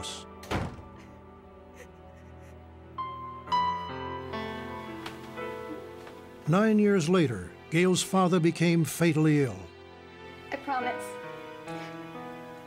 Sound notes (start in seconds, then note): 0.4 door slams; 1.6 cries